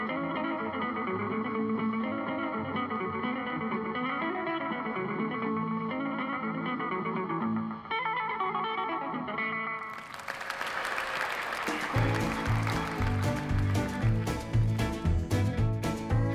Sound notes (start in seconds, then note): 9.8 audience applauding; 11.6 lively country guitar music